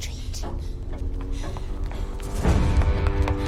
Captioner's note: ticking continues